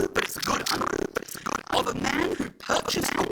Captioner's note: audio distorts